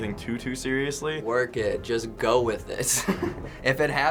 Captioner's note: giggles